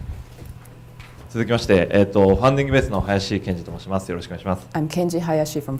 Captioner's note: speaking foreign language